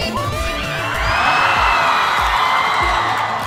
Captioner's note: crowds cheering